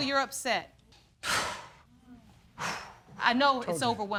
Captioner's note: sighs